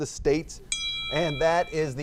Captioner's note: bell rings